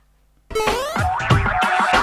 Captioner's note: boing